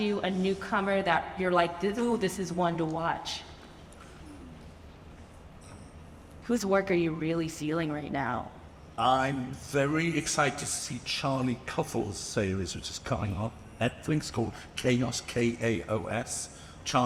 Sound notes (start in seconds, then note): none